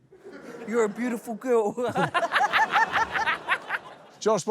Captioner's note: laughter